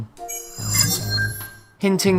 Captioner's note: sharp chiming